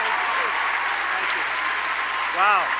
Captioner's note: applause